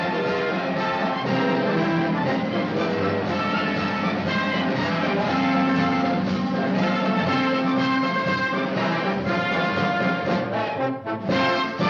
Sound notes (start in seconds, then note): 0.5 horn blowing